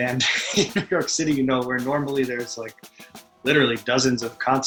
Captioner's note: laughs